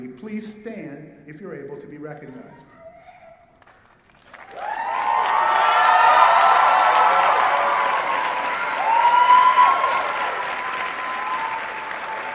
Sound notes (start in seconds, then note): 3.6 applause and cheering